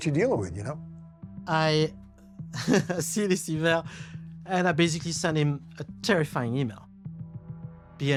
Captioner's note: chuckling